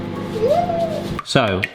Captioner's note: squealing